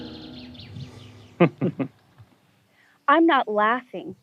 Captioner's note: laughter